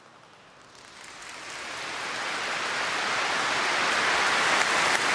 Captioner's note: crowd applauds